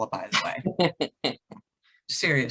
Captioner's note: laughs